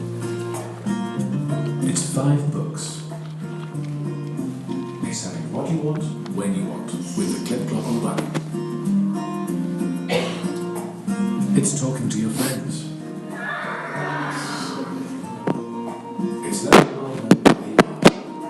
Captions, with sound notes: 'It's five books. 'It's having what you want, when you want. 'It's talking to your friends. '(NEIGHS)